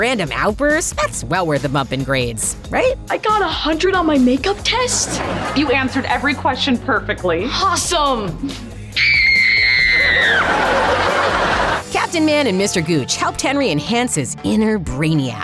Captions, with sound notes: Some random outburst, that's well worth a bump in grades. Right? I got a hundred on my makeup test? You answered every question perfectly. Awesome. [screaming] Captain Man and Mr. Gooch helped Henry enhance his inner brainiac.